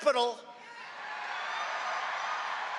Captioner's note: cheering and applause